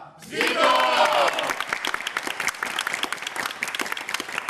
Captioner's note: χειροκρότημα